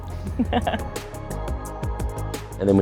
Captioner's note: laughs